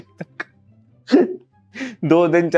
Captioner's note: laughing